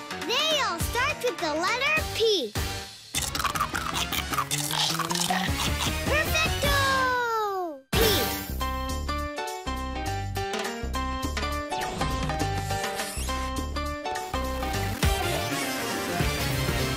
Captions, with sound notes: They all start with the letter P. (MUNCHING) Perfecto! P!